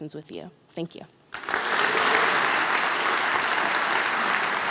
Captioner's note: applause